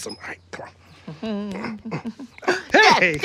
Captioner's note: hums